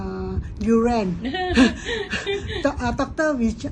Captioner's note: laughs